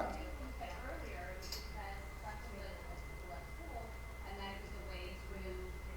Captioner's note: attendee speaking quietly